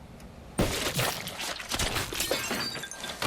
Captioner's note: splatter; glass shattering